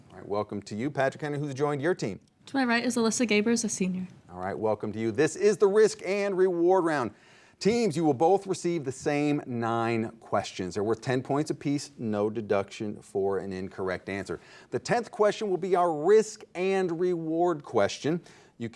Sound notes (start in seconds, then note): none